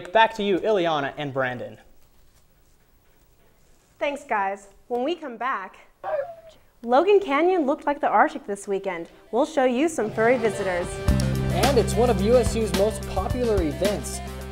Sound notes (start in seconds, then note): 6.0 bark